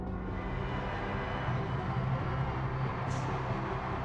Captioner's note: cheering